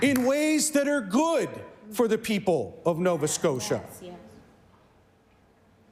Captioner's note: some Applause